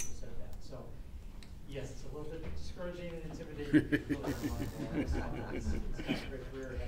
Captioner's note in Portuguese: risos